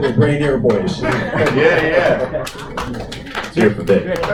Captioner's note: applause